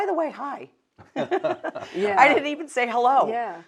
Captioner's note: chuckle